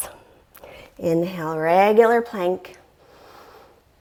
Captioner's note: deep breathing sounds